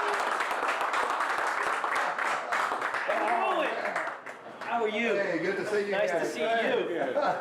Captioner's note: applause